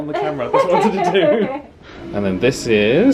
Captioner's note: laughing